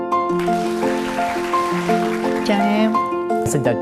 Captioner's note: applause